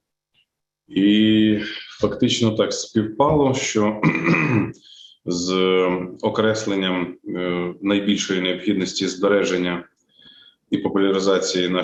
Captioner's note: foreign Language Spoken